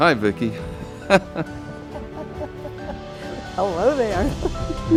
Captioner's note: laughter